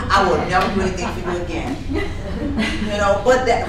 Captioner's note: laughing